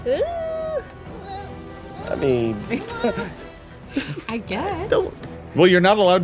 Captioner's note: gurgling